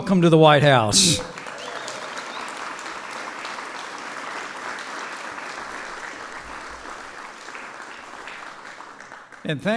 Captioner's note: applause